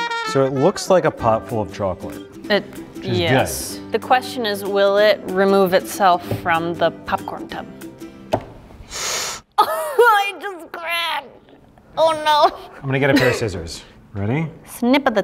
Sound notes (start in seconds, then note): 0.0 trumpets playing; 8.8 sucks in air